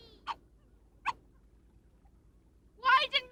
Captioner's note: barking